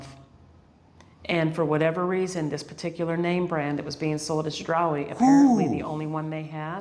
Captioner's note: ooh!